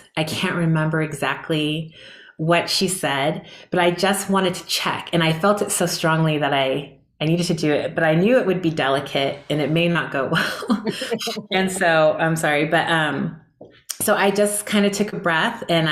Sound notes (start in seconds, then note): 10.5 all chuckling